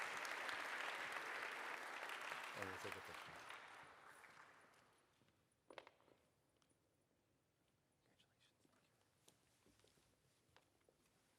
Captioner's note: applause